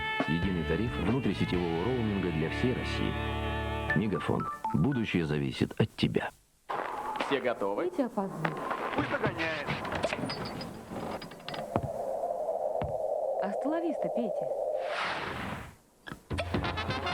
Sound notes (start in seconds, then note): 0.0 rhythmic music; 6.7 snow crunch